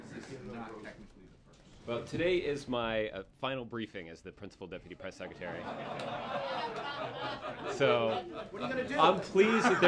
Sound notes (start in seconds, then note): 5.4 laughter